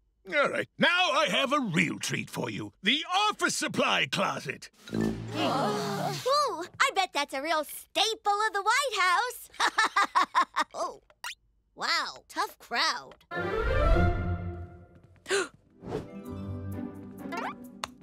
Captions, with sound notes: - All right, now I have a real treat for you, the office supply closet. [all groan] - Ooh, I bet that's a real staple of the White House. [laughs] Oh, wow, tough crowd. - [gasps]